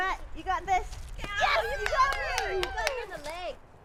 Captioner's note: cheering